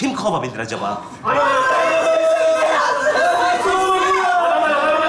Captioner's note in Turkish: bağrışmalar duyulur